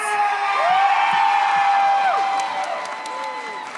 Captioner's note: audience cheers